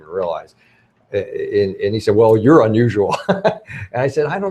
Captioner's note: laughs